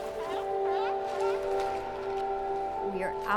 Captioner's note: seal barking